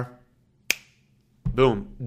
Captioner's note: snaps fingers